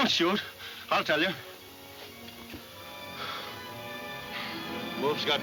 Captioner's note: sighing